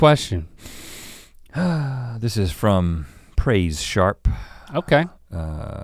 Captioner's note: sighs